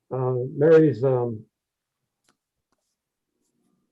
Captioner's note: laughs